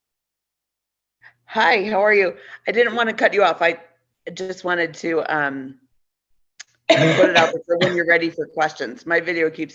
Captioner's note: coughs